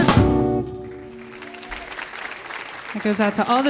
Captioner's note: audience applauding